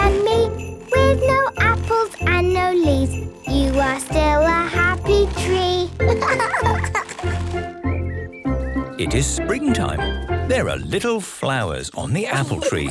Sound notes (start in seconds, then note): 6.0 laughing; 7.7 birdsong